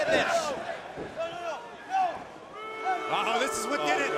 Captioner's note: crowd cheering